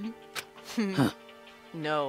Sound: laughs

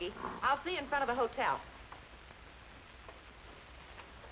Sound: none

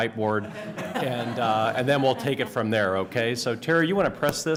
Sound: laughter

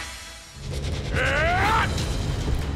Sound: grunting

